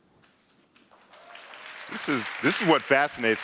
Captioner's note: clapping